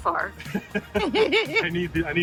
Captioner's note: laughing